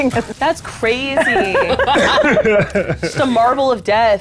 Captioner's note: players laughing